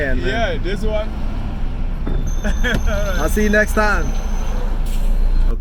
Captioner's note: laughing